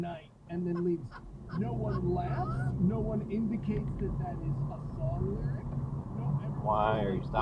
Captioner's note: laughing